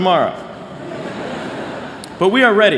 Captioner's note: laughter